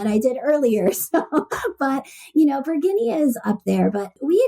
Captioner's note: laughs